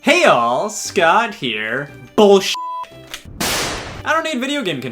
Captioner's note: beep